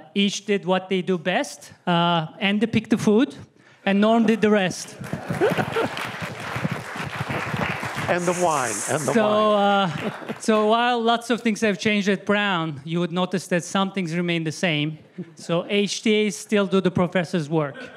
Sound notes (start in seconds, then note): 4.8 applause